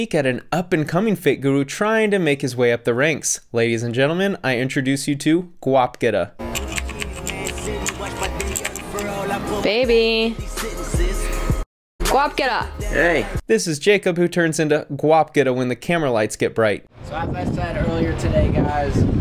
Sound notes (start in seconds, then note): 6.4 bouncy music; 6.5 typewriter keys clacking